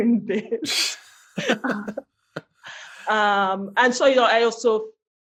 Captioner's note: laughter